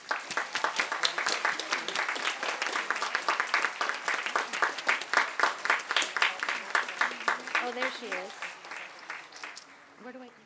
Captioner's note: applause